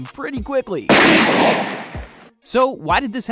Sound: gun firing

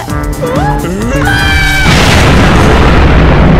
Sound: huge explosion

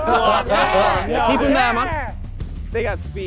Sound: contestants laughing

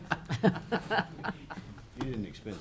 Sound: laughing

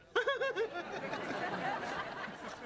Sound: laughs

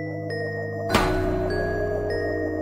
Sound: none

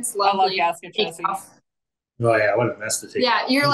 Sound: faintly speaking

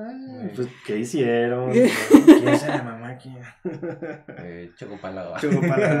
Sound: laughter; laughing & agreeing

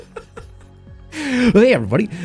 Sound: laughs

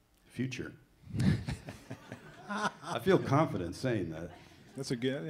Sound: audience laughs

